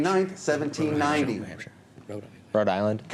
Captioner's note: whispers